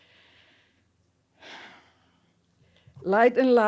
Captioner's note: sighs